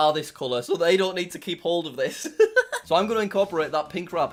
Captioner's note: giggles